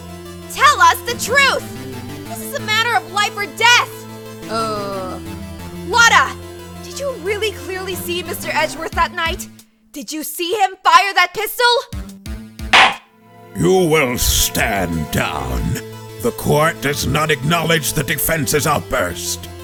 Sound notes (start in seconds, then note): 12.7 gavel slams!